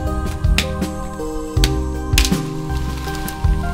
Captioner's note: tapping